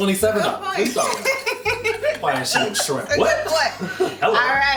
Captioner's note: laughing